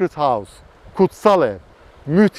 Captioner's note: in Turkish